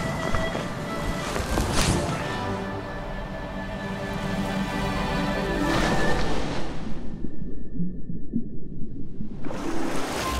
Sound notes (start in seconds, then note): 5.6 water splashes